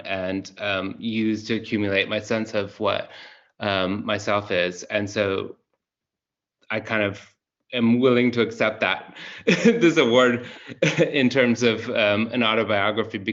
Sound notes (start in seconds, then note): 9.2 laughs